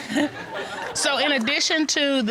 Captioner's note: chuckles